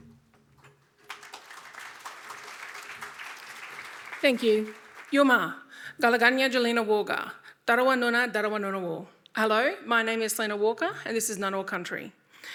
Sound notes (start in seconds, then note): 0.6 audience applauding; 5.1 speaking in Ngunnawal language